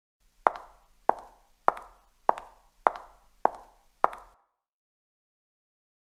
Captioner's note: footsteps